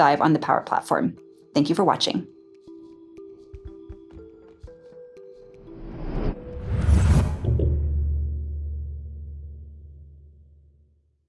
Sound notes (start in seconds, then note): 3.3 soft music; 5.7 whooshing air